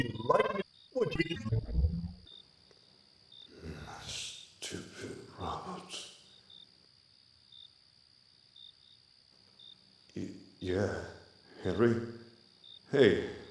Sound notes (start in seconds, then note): 3.6 grumbles